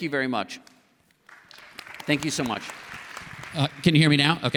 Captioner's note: applause